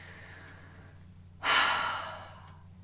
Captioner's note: sigh